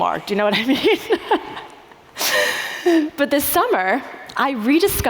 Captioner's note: laughs